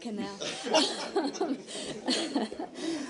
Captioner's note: laughter